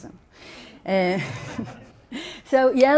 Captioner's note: audience laughing